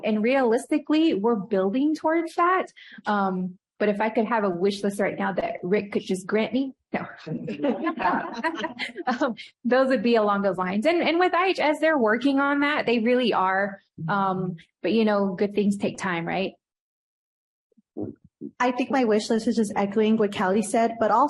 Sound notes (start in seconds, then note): 7.4 laughs; 7.4 laughter